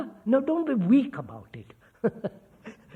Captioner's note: laughs